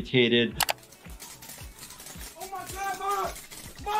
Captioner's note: fireworks crackling